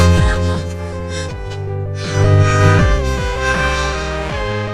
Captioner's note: gasping